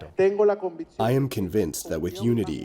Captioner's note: through translator